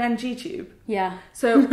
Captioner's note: laughs